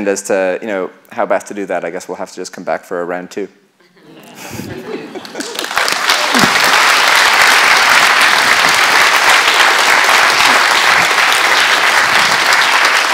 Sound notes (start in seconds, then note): 3.9 laughter; 5.2 applause